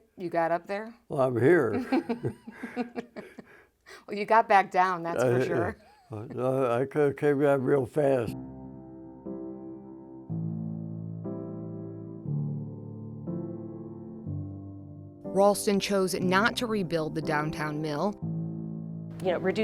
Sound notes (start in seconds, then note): 1.6 both laugh